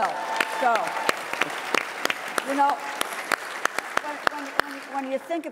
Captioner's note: applause